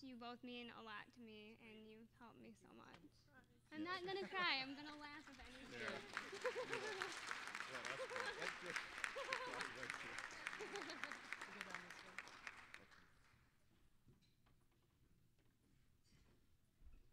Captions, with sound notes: YOU BOTH MEAN A LOT TO ME, AND YOU'VE HELPED ME SO MUCH. I'M NOT GONNA CRY-- I'M GONNA LAUGH, IF ANYTHING. (applause)